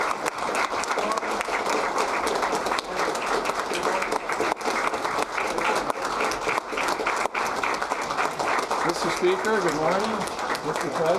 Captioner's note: applause